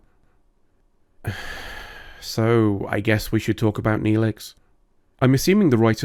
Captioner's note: sigh